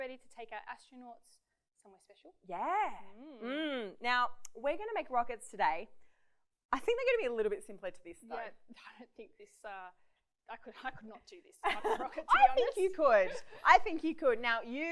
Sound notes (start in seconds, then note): 12.1 laughs